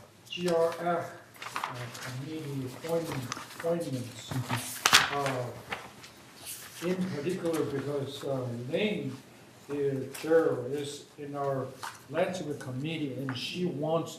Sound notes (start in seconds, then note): 2.7 speaking off microphone